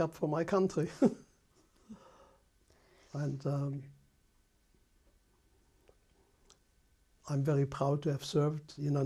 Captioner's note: laughs